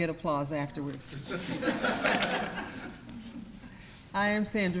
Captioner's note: audience laughs